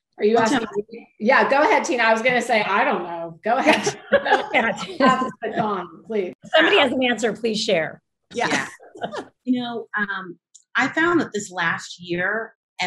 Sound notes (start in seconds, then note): 3.7 panel laughs